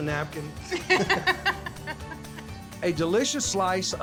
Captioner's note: laughter